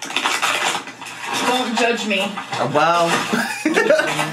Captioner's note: water bottle crinkling